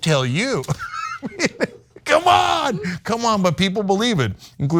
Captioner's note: laugh